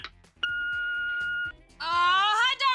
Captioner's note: beep!